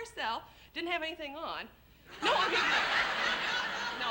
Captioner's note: laughter